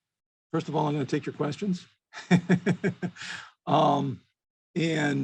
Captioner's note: laughs